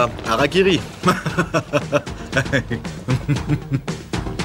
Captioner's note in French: rires sarcastiques